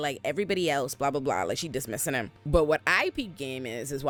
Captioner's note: none